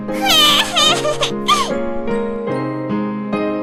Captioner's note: squeeling